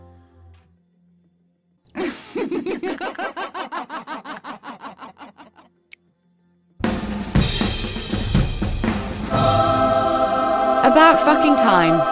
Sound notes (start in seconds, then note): 1.9 deranged laughter